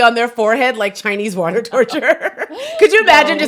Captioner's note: both laughing